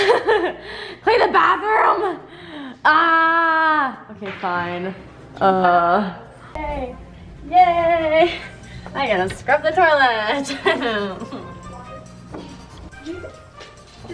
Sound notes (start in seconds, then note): 0.2 laughs; 10.4 laughs